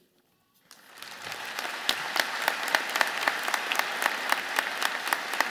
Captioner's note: audience applauding